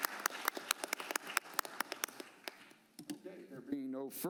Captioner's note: applause